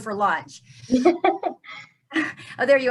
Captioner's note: laughing